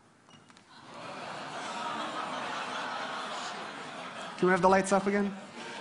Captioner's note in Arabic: ضحك